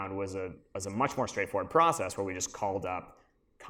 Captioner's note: none